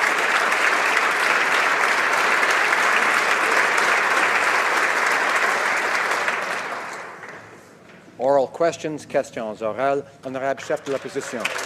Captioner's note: applause